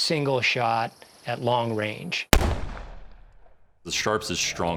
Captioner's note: fires rifle